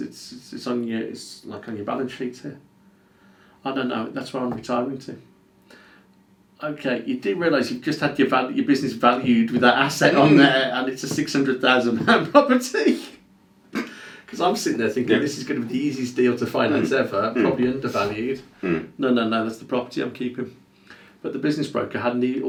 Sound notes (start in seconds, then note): 13.7 laughs